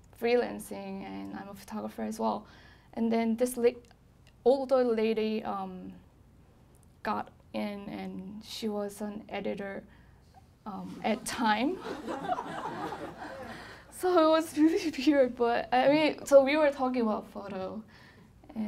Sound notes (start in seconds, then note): 11.7 laughing